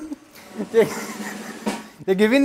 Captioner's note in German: Lachen; Trommelwirbel